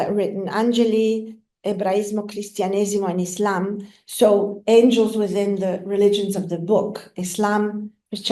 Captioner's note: italian